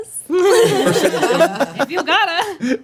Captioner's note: laughing